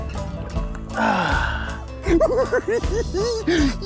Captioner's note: laughs